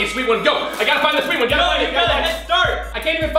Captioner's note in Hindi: घंटी बजती है